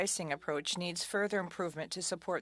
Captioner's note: speaking french